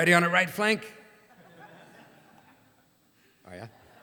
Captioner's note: laughter